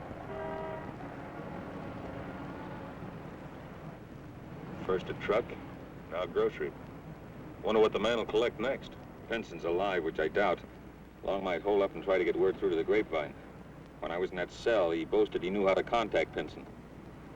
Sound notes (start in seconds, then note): none